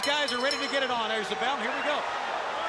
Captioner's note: bell ringing